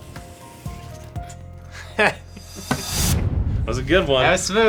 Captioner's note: laughing